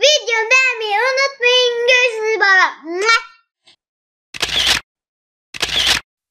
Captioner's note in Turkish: muah